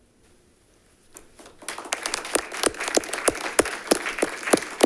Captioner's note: group applauding